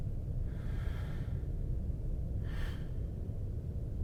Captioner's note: heavy breathing